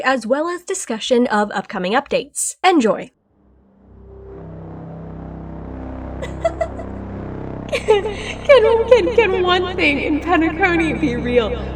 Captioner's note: crazy laughter